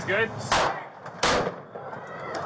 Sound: sound of gunfire

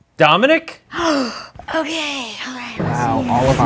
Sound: gasps

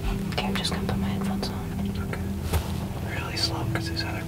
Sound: whispering

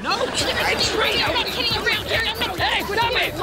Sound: arguing

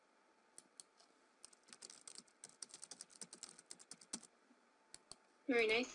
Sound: sound of typing

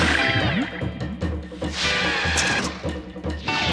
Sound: tires screeching

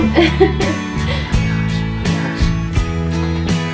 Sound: laughs

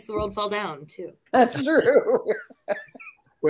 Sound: laughter

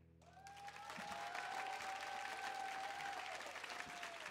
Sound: audience applauding

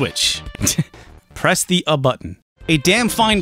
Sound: snickers

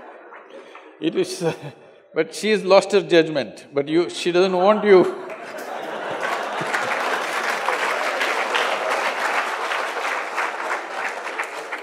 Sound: Sadhguru laughs; laughter/Applause

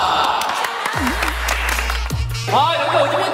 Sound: clapping

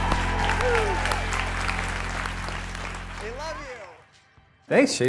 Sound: applause

